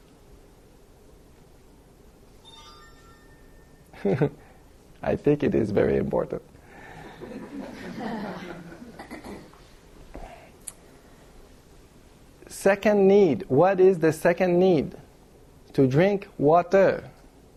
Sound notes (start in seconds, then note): 2.4 dring!; 6.9 laughter